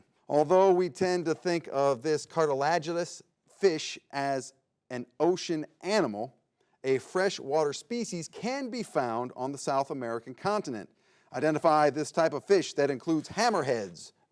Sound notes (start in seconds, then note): none